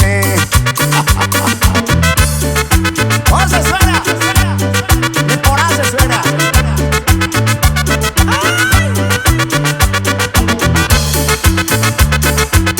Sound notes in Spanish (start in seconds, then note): 0.7 jajaja